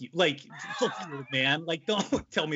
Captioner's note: laughing